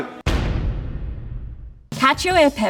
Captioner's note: thudding